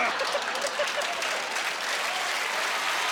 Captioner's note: applauding